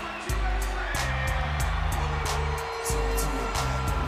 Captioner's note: announcer vocalizing